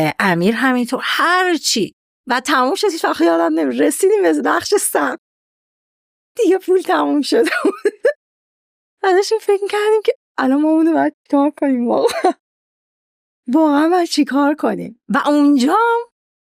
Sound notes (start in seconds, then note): 7.5 laughs